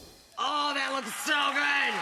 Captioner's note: screen whooshing; audience cheering